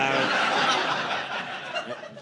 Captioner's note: audience laughing